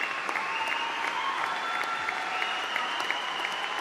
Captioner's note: cheering